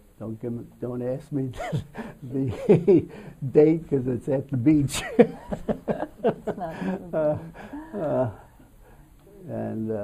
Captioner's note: laughter